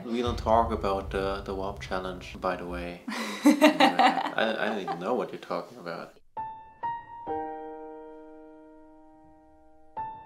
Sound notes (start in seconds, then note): 3.2 laughs; 6.6 sad music